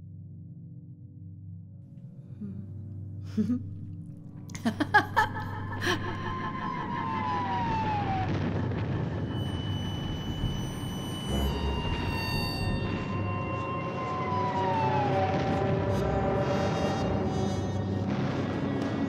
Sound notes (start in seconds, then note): 2.9 laughs Manically; 7.6 sirens & Bombing Sounds; 9.6 sirens & Bombing Sounds Increases